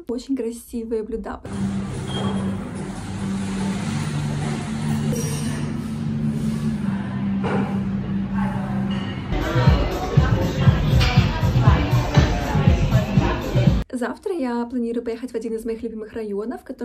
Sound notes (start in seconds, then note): 1.5 cafe sounds